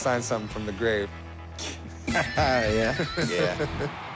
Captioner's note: laughs